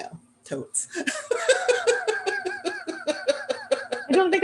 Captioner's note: laughter